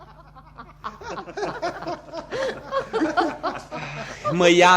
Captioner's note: everyone laughs